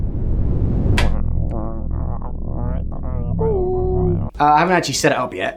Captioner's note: grumblings from the shed